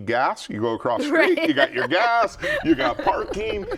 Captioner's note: laughing